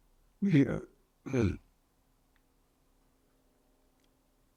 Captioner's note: pauses 8 seconds